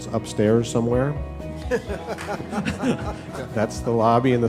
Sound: laughter

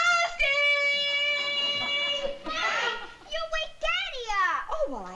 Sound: shouting

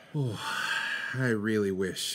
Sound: sighs

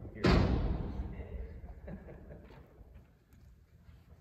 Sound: laughs

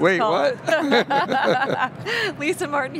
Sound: laughs

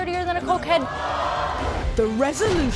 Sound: audience gasps

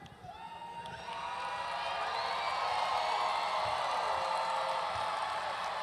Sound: audience cheering and applauding

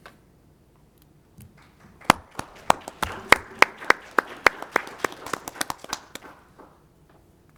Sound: applause

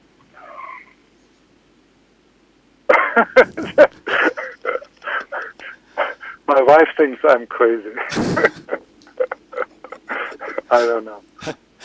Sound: laughs

